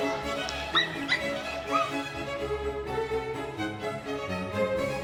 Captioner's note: bright music continues; leopard squeaking